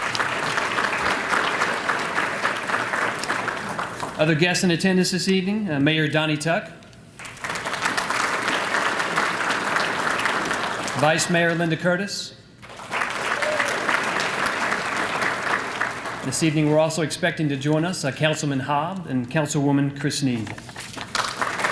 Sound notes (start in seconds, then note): 0.0 applause; 8.8 applause; 12.6 applause